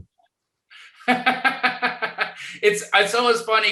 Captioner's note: laughing